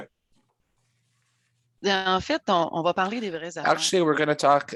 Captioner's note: speaking French